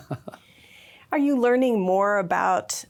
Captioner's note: laughs